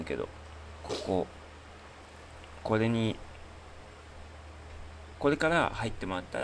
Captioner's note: snort